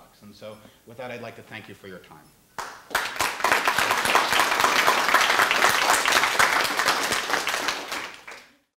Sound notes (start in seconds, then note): 2.0 applause